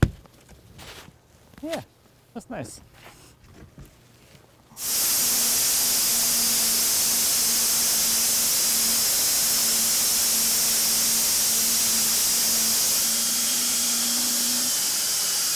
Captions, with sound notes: Yeah, that's nice. (machine grinds)